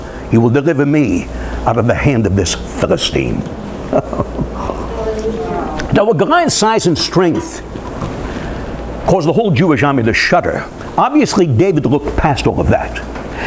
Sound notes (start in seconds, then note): 3.7 laughter